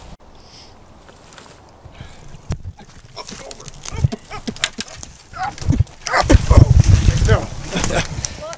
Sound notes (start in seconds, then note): 2.5 grunts and groans